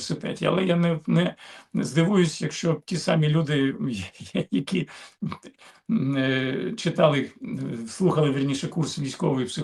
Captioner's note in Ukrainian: прочищення горла